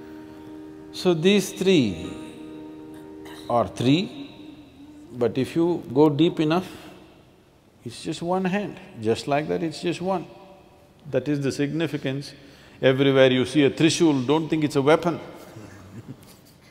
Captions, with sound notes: So, these three are three. But if you go deep enough, it's just one hand, just like that, it's just one. That is the significance, everywhere you see a trishul, don't think it's a weapon (Laughs).